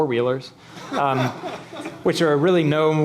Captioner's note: laughing